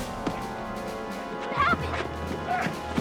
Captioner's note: groaning